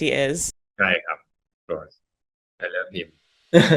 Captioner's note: in Thai